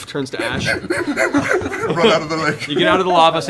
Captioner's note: panting